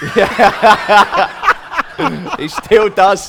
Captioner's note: laughter